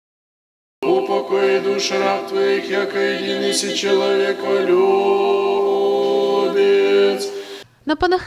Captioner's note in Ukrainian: лунає молитва